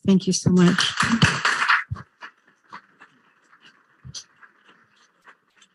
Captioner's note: applauding audience